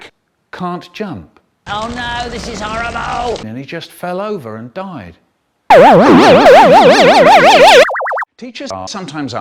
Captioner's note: beep